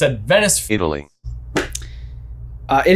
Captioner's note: robotic Voice